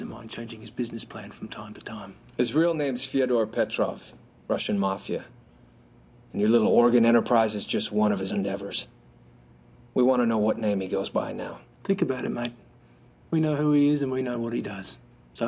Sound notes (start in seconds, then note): none